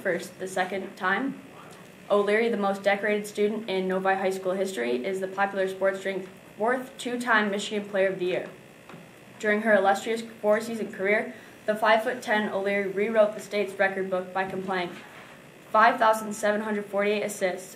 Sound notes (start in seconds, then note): none